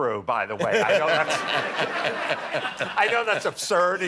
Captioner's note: laughter